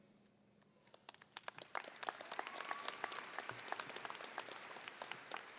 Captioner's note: audience applauding